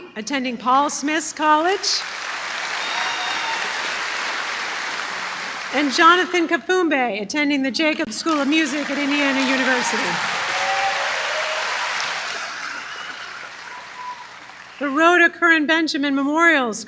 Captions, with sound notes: attending Paul Smith College. [applause] And Jonathan Kaffumbay, attending the Jacobs School of Music at Indiana University. [applause] The Rhoda Curran Benjamin Memorial